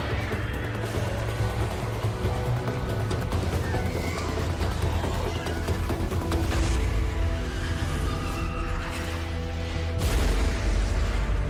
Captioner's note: creature howling